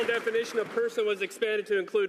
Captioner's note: some Applause